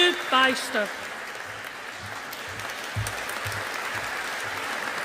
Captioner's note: audience applauding